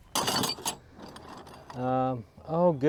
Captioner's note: metal clanks